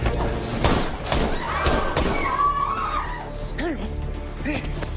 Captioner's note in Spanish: Gritos y algarabía; Disparos